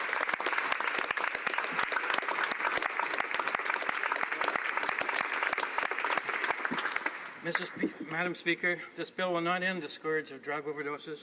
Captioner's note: applause